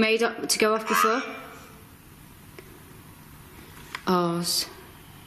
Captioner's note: OVILUS buzzing